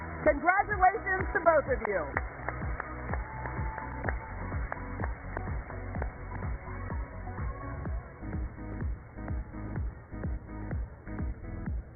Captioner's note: cheers and applause